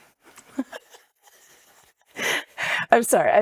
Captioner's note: laughing